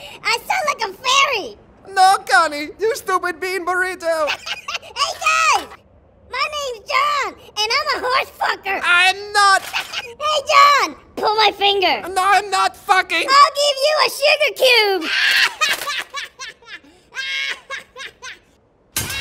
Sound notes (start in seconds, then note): 0.4 high pitched; 4.1 high pitched laughing; 6.6 high pitched; 9.6 high pitched laughing; 13.6 high pitched; 15.0 high pitched laughing; 18.9 inhaling and high pitched laughing